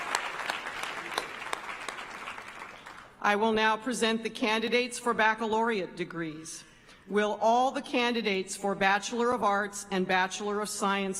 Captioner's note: applause